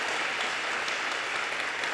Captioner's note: audience cheers and applause